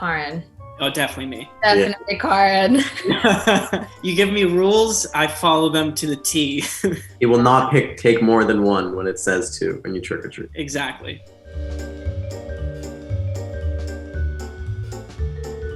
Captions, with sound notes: - Karan. - Oh, definitely me. - Yeah. - Definitely Karan. (laughs) - You give me rules, I follow them to the T. (laughs) - He will not pick take more than one when it says two when you trick-or-treat. - Exactly. (playful, cheery music)